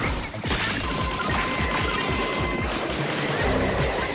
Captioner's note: the sound of an attack starting